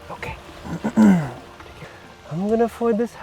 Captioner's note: scoffing